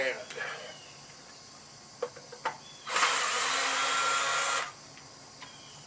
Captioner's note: drilling